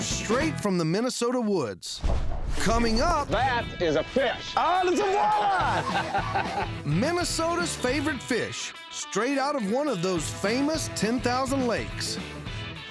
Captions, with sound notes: STRAIGHT FROM THE MINNESOTA WOODS! COMING UP... THAT IS A FISH! AH! IT'S A WALLEYE! [LAUGHING] MINNESOTA'S FAVORITE FISH... STRAIGHT OUT OF ONE OF THOSE FAMOUS 10,000 LAKES!